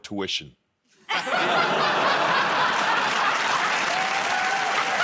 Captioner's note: laughing; cheers and applause